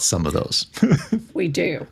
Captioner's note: laughing